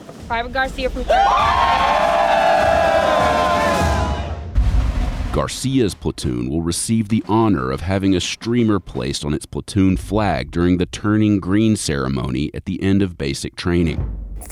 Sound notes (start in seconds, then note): 1.0 everyone cheering